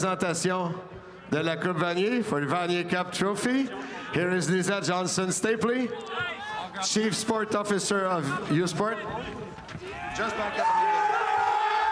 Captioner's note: speaking French